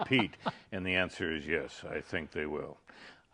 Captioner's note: laughing